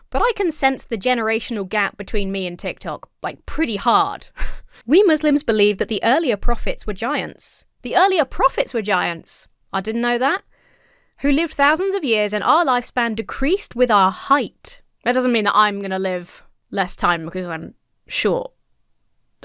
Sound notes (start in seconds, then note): 4.3 wheezes